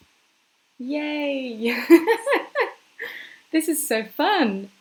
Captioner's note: laughing